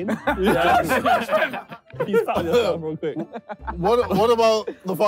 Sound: all laughing

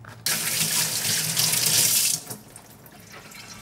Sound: water splashing

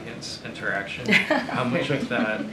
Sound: laughter

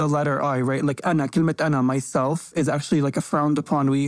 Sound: speaks in foreign language

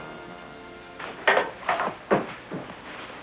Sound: crutches clacking

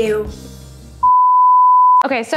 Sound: beep

